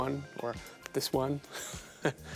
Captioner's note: laughing